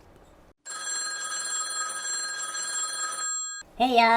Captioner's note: phone ringing